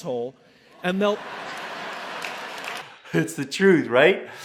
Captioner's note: crowd laughs